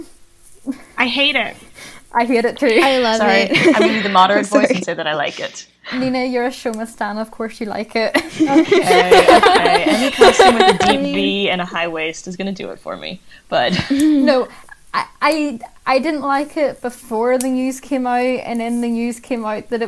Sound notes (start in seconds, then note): 8.2 laughs